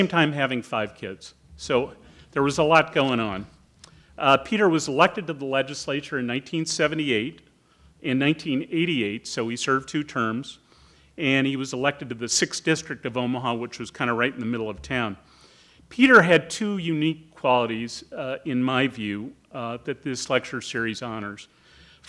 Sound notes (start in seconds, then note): none